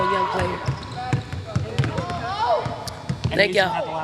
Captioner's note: players shouting